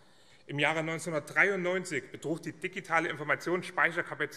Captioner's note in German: none